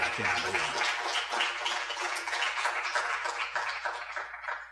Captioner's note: audience applauds